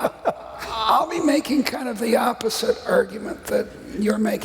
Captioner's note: laughter